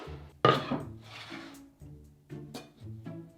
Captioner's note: board sliding